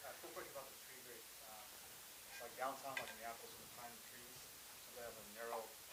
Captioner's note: person speaking quietly; speaking quietly